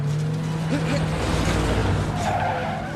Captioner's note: exclaims; tires squealing